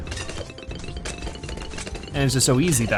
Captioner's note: weapons firing